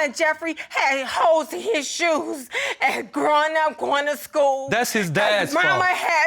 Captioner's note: voice breaks